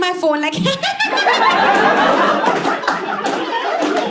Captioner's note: evil laugh